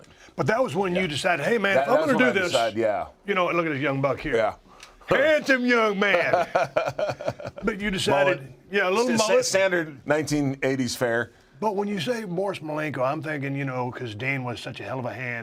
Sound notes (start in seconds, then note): 5.9 laugh